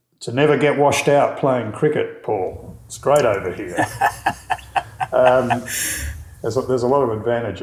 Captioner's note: laughing